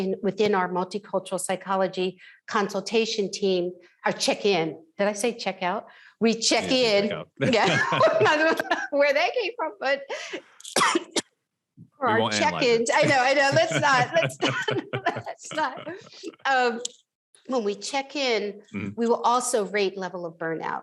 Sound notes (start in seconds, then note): 6.6 both laughs; 13.9 both laughs